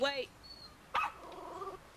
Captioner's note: barking